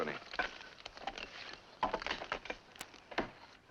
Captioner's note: axes chopping